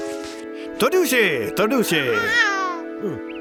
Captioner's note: speaks in gibberish